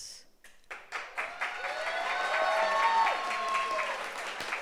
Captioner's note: audience applauds